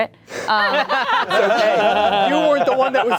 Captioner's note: everyone laughing